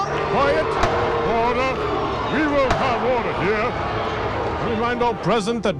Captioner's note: gavel banging